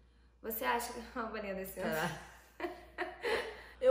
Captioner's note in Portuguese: risos